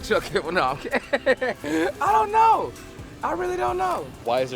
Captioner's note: laughs